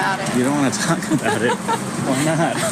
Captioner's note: laughs